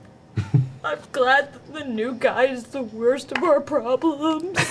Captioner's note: tearfully; all laugh